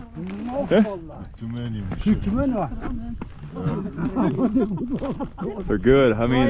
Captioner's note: locals speaking in foreign language